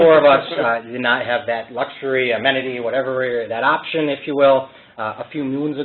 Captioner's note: laughter